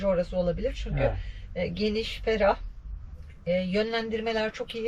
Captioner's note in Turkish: boğazını temizler